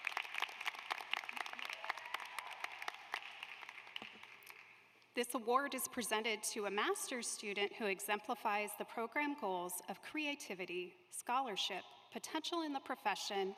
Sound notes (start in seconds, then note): 5.0 applause